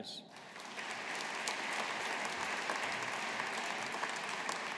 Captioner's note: audience applauding